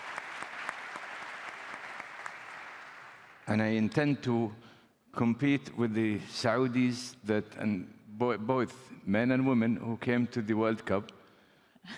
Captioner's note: applause